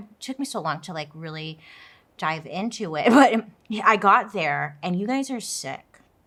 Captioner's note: laughs